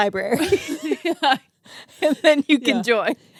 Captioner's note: laughing